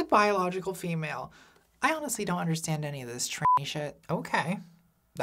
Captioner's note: beep